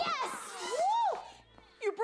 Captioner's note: shouts